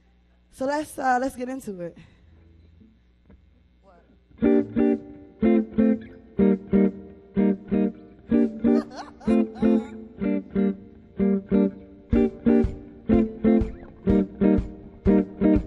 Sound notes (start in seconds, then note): 4.7 soft guitar strumming; 8.4 laughs